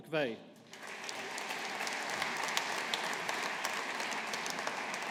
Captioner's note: audience applauding